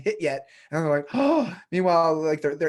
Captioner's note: gasps